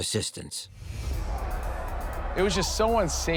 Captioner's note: crowd clamoring